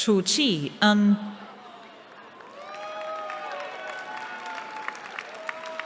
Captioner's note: cheering